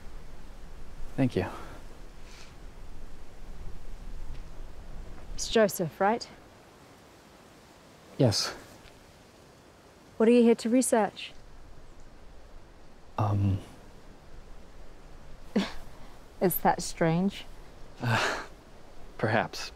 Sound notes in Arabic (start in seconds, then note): 15.6 ضحكة مكتومة; 18.0 تضحك بعصبية